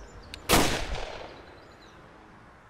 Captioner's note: Gun shot